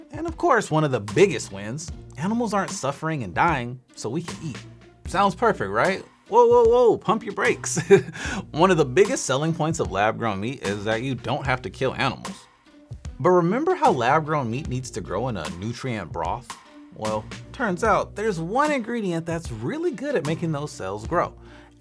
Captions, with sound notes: And of course, one of the biggest wins, animals aren't suffering and dying so we can eat. Sounds perfect, right? Whoa, whoa, whoa. Pump your brakes. (laughs) One of the biggest selling points of lab-grown meat is that you don't have to kill animals. But remember how lab-grown meat needs to grow in a nutrient broth? Well, turns out there's one ingredient that's really good at making those cells grow,